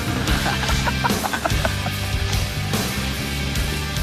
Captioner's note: boys laughing